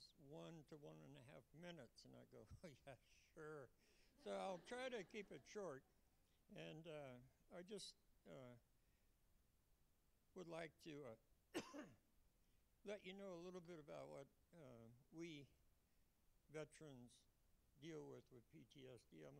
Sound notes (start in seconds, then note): 4.2 laughter